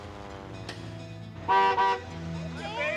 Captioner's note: horn